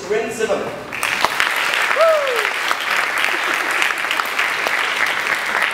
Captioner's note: audience applauding